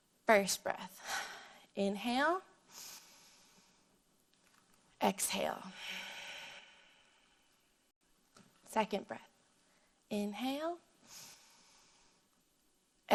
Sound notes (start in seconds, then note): 2.0 inhales; 2.7 exhales; 11.0 inhales; 11.0 exhales